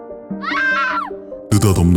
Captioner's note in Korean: 비명 소리